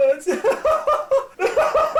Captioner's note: laughing Hysterically